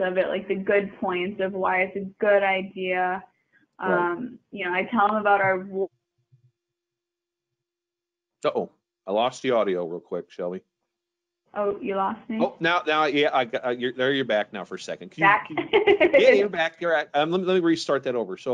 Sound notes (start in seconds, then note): 5.9 audio cuts off; 15.3 chuckling